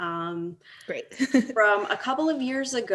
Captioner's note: laughs